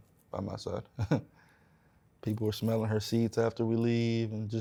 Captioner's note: chuckles